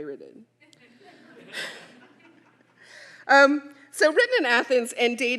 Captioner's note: audience laughing